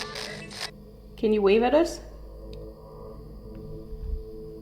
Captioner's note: spirit box stops